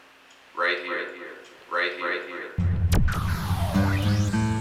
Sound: electronic whirring sound

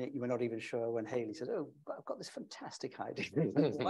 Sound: chuckles

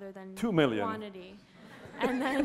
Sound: laughter

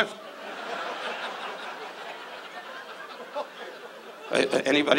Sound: audience laughs

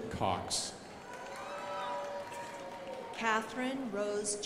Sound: crowd applauding

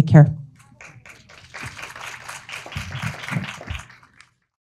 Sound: audience applauding

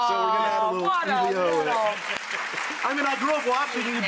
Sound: applause

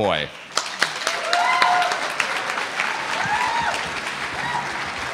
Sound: audience cheering

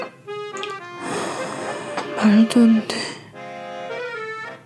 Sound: sigh

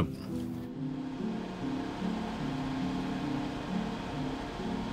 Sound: machine whirring

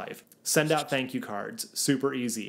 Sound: graphics swish

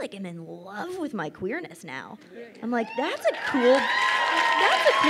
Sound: crowd cheers and applauds

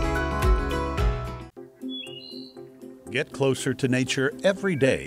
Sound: birds singing

